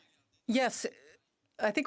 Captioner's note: speaking French